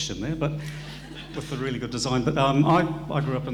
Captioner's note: audience laughing